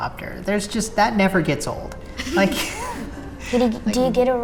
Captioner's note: laughs